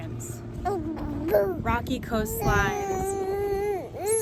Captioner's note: gurgling